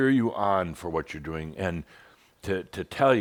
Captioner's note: none